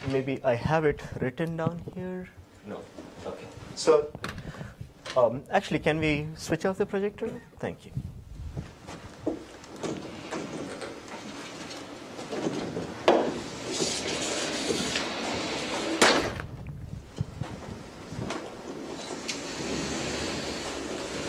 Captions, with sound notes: Maybe I have it written down here. No? Okay. So actually, can we switch off the projector? Thank you. (projector screen retracts) Okay.